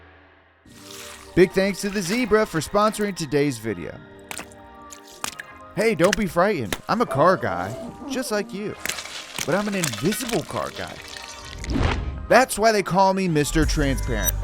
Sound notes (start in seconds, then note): 4.8 water splatting; 8.7 water splatting